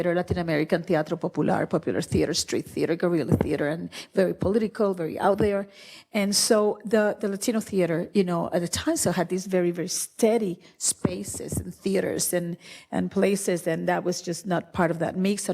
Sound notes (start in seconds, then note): none